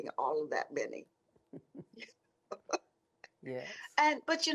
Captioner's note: laughter